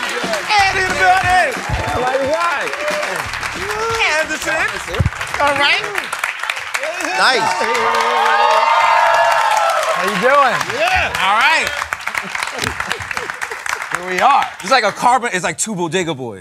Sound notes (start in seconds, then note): 0.0 applause; 7.7 cheering